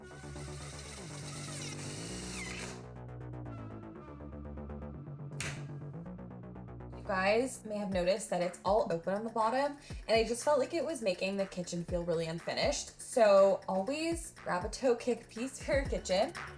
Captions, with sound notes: (drill whirring) (dramatic music) (hinge clicks) You guys may have noticed that it's all open on the bottom, and I just felt like it was making the kitchen feel really unfinished. So always grab a toe kick piece for your kitchen.